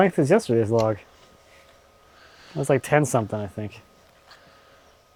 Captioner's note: none